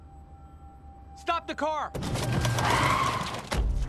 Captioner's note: slams on brakes